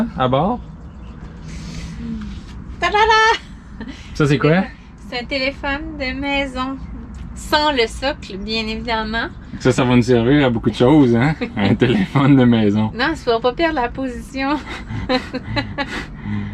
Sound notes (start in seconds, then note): 14.4 laughs